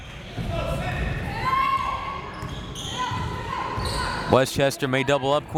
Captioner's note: crowd members shouting